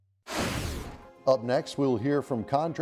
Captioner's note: voiceover